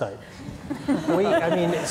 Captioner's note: laughs